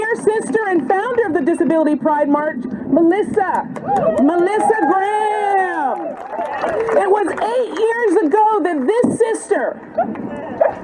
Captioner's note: cheers and applause